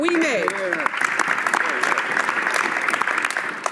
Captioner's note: some Applause